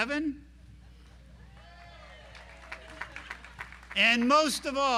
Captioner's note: audience applauding